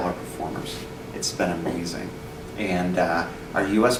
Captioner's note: none